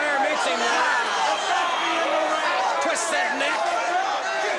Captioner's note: crowd chatter